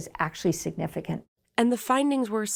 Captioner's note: voice-over